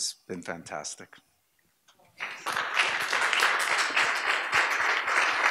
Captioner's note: audience applause